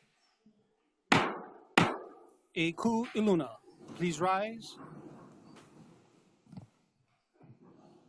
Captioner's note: gavel bangs twice